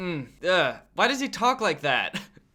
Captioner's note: groans uncomfortable